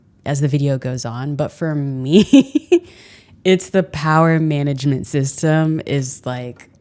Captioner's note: laughing